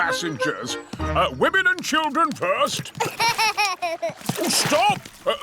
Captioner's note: laughs